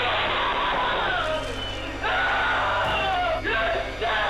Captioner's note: object clunks; woman screaming